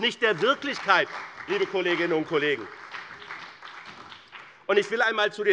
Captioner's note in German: Beifall bei dem BÜNDNIS 90/DIE GRÜNEN und der CDU